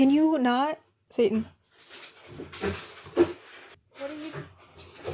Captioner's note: rustling sounds; more rustling